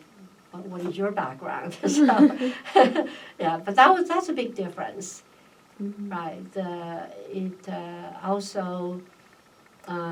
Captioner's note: laugh